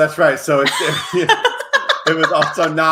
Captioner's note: both laugh